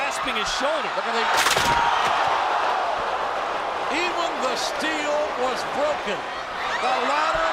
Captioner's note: applause